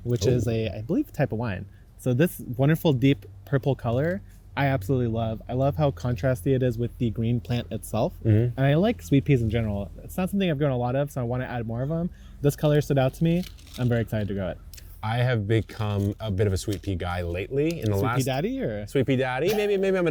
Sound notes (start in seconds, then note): 13.1 seeds rattling; 19.4 chuckling